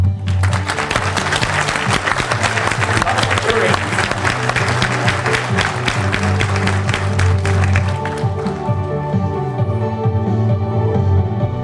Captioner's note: applause